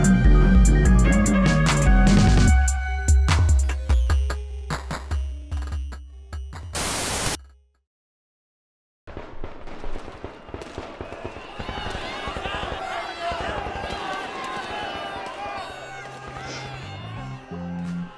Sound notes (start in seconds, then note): 6.7 Static; 9.1 gun fire; 13.4 screaming with gunfire